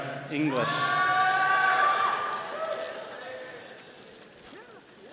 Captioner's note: all cheering